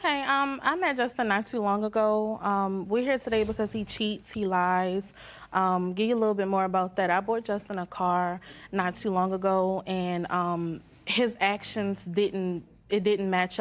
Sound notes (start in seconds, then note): none